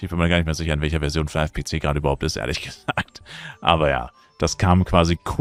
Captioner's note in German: gelächter